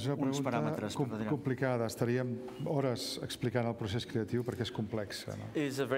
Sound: speaking catalan

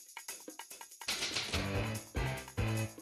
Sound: typewriter clacking

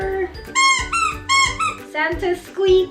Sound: squeaking

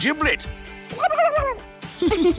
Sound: gobbling; giggling

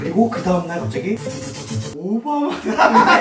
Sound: sound effect

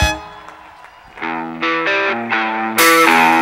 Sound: applause

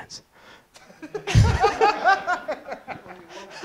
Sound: laughter

